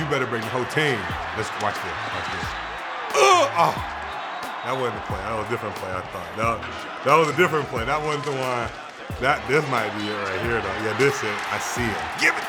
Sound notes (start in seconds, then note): 3.1 grunts